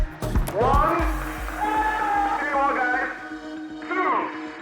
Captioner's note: audience cheering